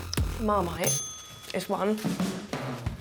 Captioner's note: dinging